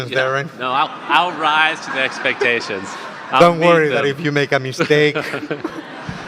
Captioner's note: audience laughter